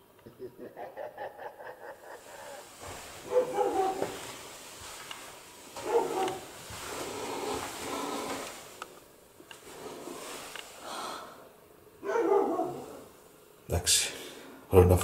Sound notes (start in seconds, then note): 0.2 evil laughing; 10.7 female breath